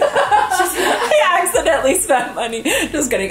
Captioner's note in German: beide lachen